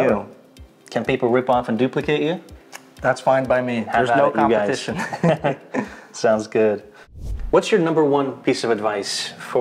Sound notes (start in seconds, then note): 4.9 chuckles